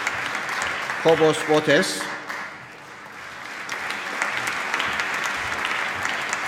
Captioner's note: applause